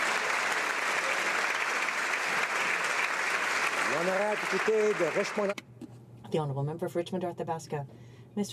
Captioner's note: applause